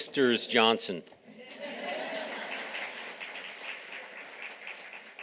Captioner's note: audience laughing